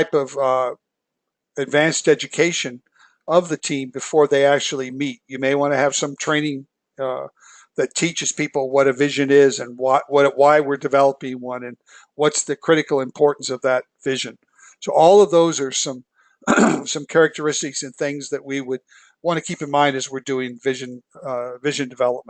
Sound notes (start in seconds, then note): 16.4 cough